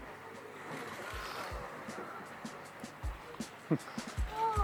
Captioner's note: water splashing; laid back music